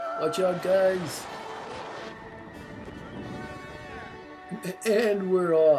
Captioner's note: sound of wind